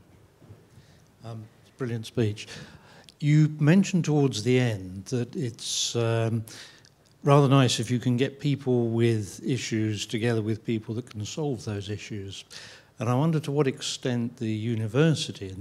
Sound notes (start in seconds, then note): none